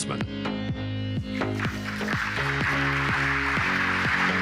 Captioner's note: applause